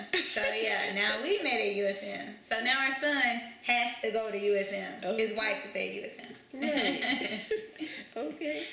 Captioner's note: laughter; laughter